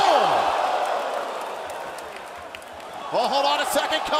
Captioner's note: crowd cheering